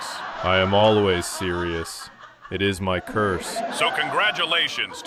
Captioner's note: audience applause